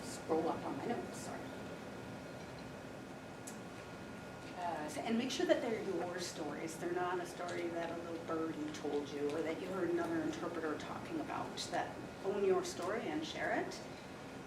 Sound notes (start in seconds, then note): none